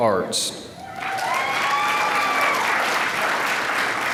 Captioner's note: applause